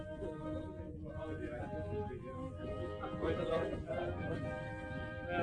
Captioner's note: all chattering